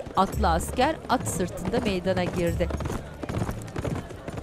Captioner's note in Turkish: At nalı sesleri